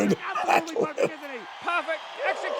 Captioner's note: both laughing